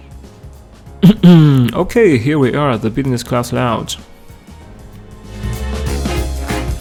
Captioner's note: eh-hem